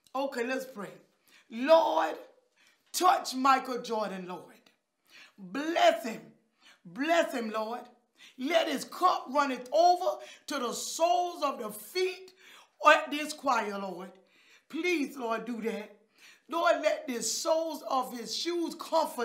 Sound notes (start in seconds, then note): none